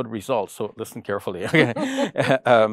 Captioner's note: laughing